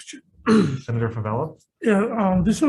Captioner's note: clears throat